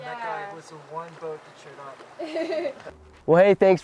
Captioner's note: blowtorch sound, laughter